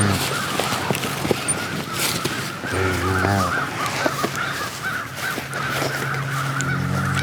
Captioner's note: cow mooing